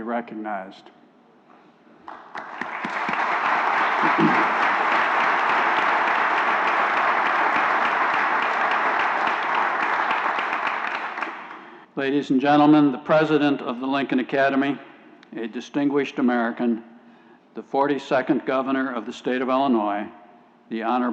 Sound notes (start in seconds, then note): 6.0 applause